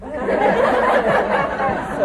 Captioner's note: laughter